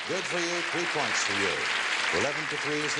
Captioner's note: audience clapping